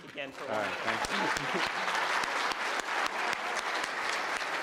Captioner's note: applause